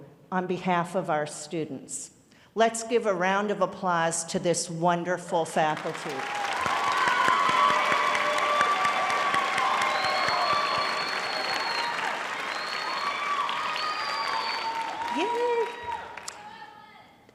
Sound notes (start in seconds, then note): 5.7 applause